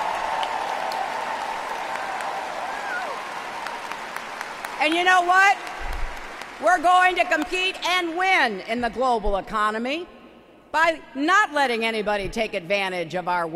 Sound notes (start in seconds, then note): 2.2 applause